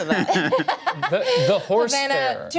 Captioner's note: laughs